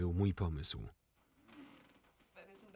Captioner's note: bed creaking